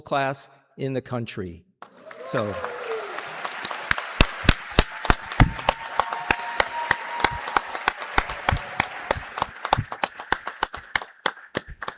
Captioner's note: cheers and applause